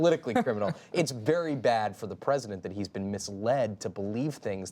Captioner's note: laughter